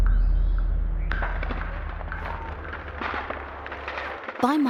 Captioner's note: gun fires